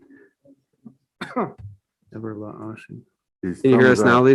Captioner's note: attendee coughs